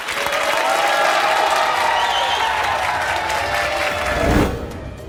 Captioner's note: audience cheering